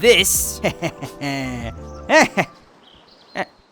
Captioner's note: evil laughing noises